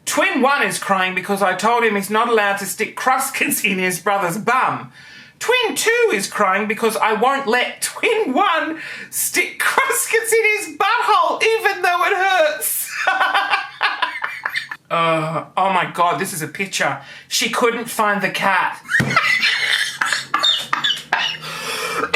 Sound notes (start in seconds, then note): 12.9 laughing; 18.8 laughing